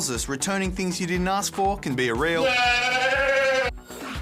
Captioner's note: bleats